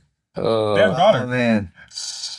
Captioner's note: laughing